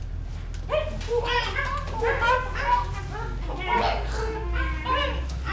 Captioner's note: monkey sounds